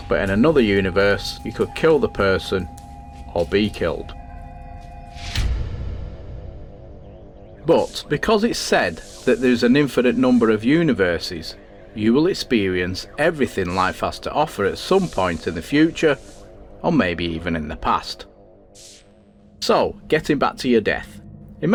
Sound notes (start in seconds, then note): 4.7 sound FX